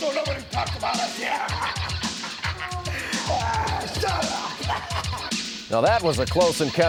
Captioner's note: laugh